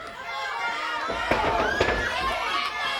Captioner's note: crowd chatter